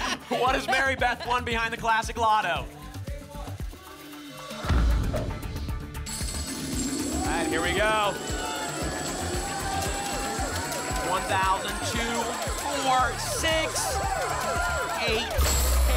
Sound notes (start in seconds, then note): 4.7 thump; 6.0 coins jingling; 8.5 cheering